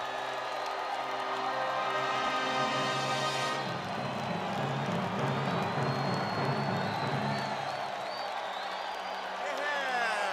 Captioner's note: crowd cheering